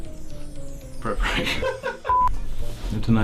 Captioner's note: laughs